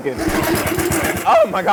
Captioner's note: blender whirring; record scratch